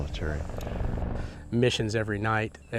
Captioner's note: helicopter whirring